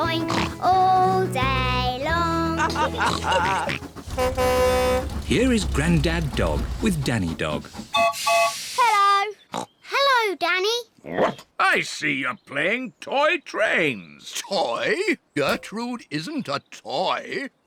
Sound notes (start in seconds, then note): 2.5 all chuckle; 3.4 horn blares; 7.9 toots whistle